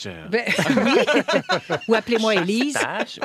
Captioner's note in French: rires